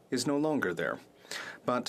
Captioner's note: speaking French